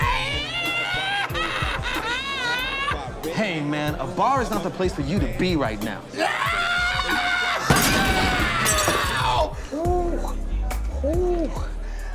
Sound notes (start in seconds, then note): 0.0 laughs; 0.3 trills tongue and laughs; 6.2 screams